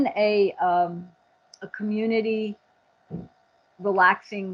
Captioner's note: thud